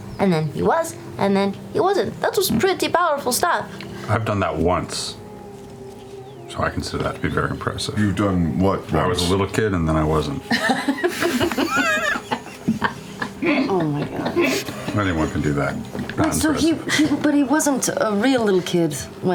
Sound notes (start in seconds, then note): 10.4 laughter